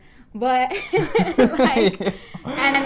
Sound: robust laughter

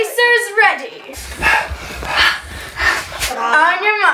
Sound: panting

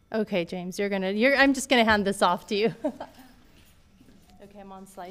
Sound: laughs

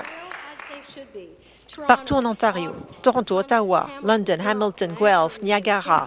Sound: applause

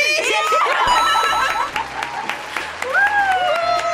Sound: group laughs; crowd cheers

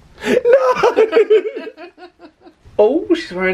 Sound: they laugh

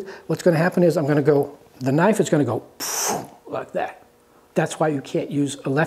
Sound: phew

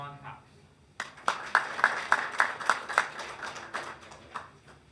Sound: hands clapping

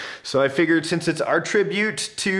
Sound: none

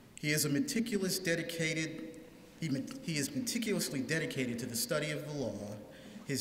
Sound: none

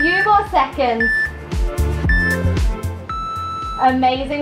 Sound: timer beeping

